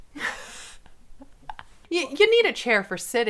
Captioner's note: laughing